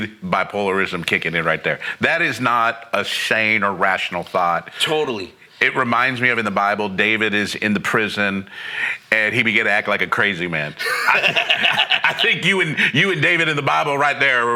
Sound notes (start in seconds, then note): 10.7 laughing